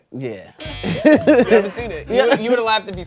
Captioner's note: buzzer buzzes